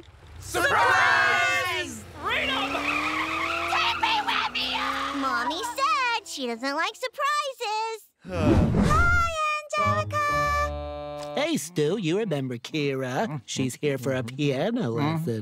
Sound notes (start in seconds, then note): 0.1 tires screeching; 8.2 sighing